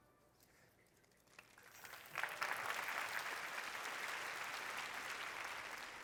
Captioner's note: applause